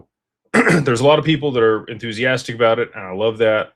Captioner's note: clears throat